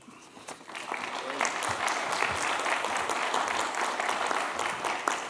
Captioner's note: applause